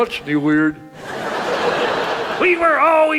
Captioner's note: audience laughs